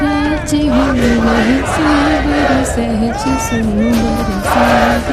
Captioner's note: chanting